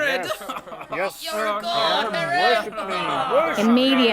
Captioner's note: crowd chattering